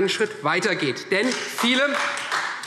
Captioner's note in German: Beifall Freie Demokraten